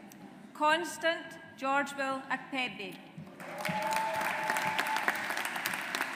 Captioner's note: audience applauds